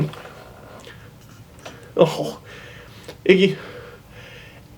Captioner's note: yawning dog noise